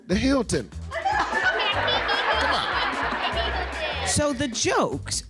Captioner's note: laughing